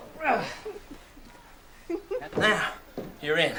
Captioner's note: giggling